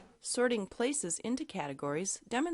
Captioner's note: voiceover